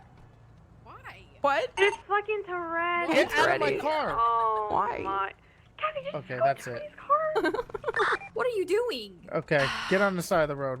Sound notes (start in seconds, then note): 7.3 laughter; 9.1 incoherent yelling; 9.6 escalating screaming; 10.0 more laughter